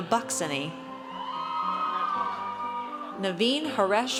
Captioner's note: audience cheers